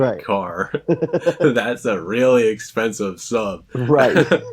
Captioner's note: laughs